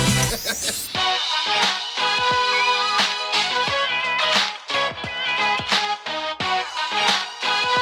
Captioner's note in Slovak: Potlesk